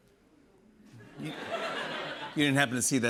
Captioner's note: laughter